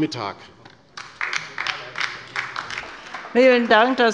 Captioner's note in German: Beifall bei der LINKEN